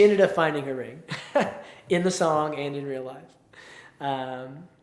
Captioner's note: chuckles